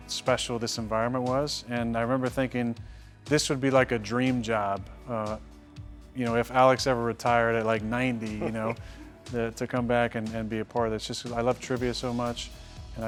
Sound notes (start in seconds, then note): 8.2 man laughing